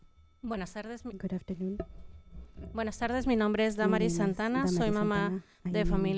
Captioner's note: panelist speaking in Spanish